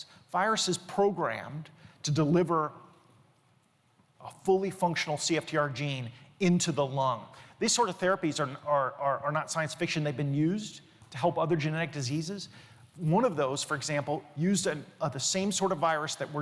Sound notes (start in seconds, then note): none